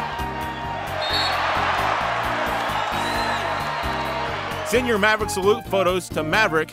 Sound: cheering

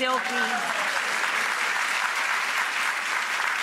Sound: clapping

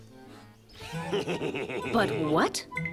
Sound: wolf laughs

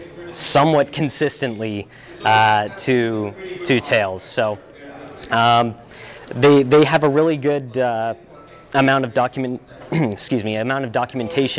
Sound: ahem

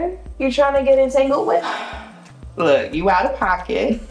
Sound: sighs

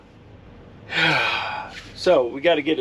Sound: man sighs

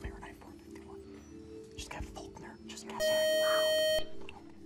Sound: time-out buzzer

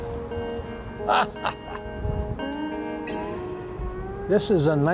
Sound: laughter

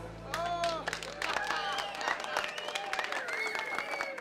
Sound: everyone cheering

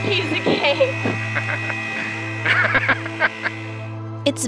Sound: laughs

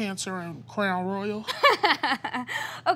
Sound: laughing

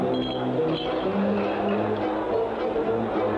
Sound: crowd Chatter

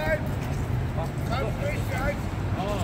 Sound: german

